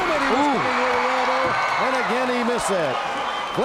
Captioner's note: crowd cheers